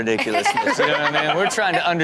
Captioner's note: everyone laughs